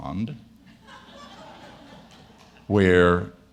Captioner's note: audience laughing